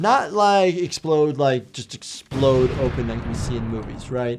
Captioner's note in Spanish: explosión en auge